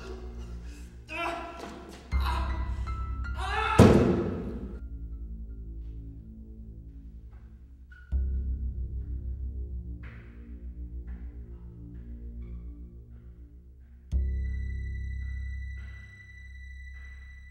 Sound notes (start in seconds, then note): 1.0 crying out; 3.3 ominous music